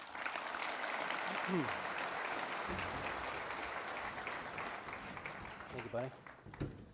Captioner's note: audience clap